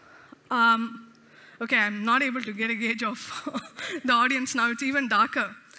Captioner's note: chuckles